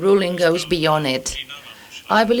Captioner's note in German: spanisch